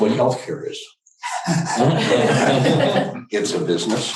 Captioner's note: audience laughs